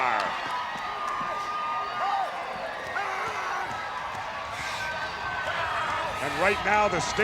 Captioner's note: crowd cheers; Knobbs shouts